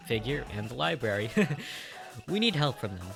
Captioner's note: stupid laugh